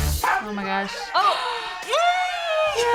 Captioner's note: both gasps